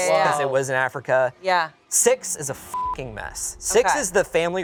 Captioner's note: beep